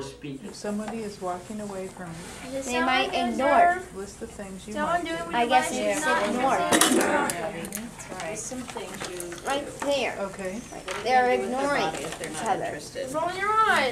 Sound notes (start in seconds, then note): 2.4 children speaking in background